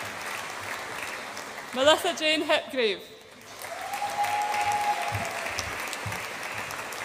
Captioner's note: audience applauds and cheers